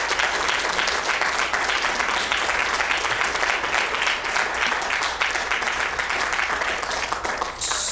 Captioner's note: applause